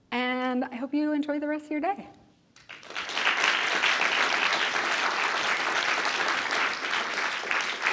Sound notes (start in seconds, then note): 2.6 audience clapping